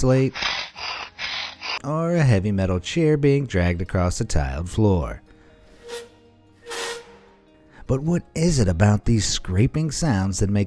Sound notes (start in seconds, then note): 0.0 chalk scraping; 6.6 chair screeching